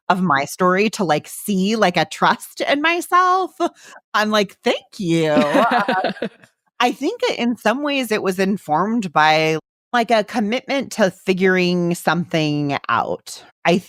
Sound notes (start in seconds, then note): 5.2 laughs